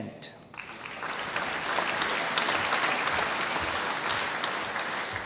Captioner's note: applause